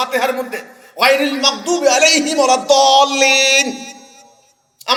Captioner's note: Arabic